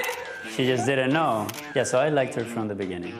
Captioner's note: laughing